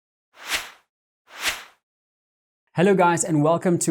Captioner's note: air swishing